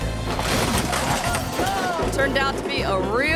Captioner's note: bumper creaks